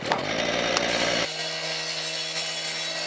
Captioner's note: electric saw revving